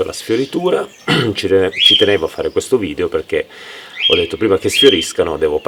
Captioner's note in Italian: schiarire la voce